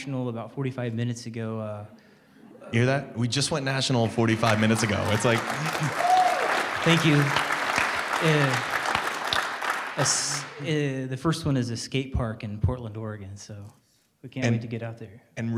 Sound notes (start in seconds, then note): 6.7 applause